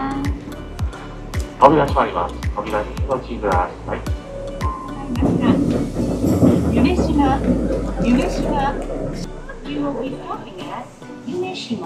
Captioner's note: train station announcement